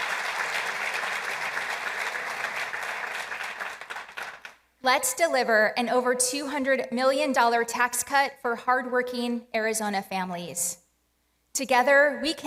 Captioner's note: applause